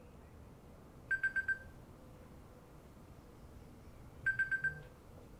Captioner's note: wulo ringing